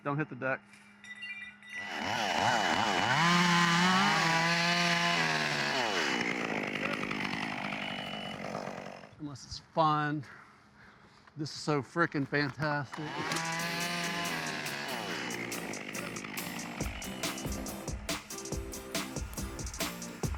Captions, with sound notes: Don't hit the deck. (glass clinking) (wood cutter screeching) Unless it's fun. This is so fricking fantastic. (instrumental music)